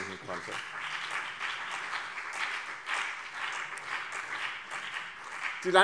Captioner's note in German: Beifall BÜNDNIS 90/DIE GRÜNEN und CDU